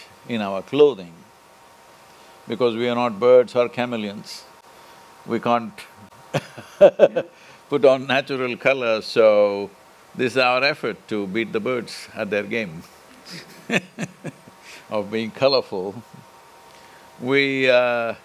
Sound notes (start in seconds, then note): 6.3 laughs; 13.2 laughs